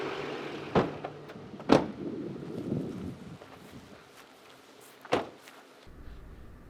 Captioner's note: truck engine stops; truck doors slam